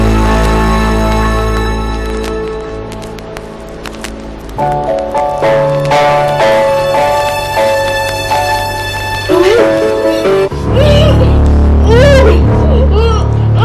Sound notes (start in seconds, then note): 10.8 Roset grunting